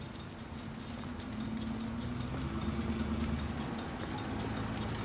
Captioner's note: engine whirring